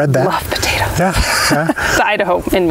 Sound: laughs

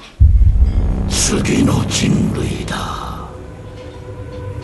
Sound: menacing voice

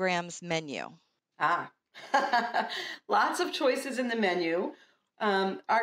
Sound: laughter

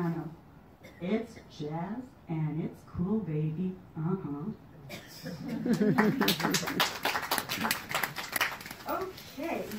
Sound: applause

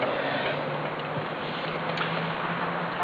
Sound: none

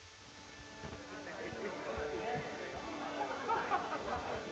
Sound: indistinct chatter

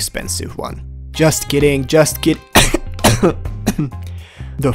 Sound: ends in cough

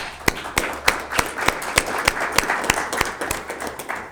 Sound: spectators applauding

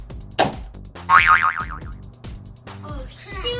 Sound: boing

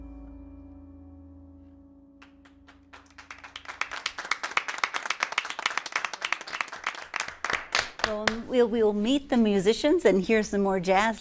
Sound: applause

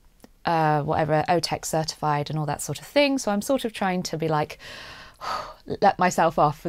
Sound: exhales

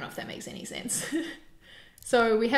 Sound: chuckles

